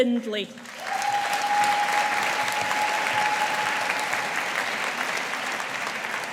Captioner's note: audience applauding